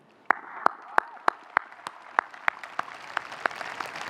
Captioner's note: audience applauding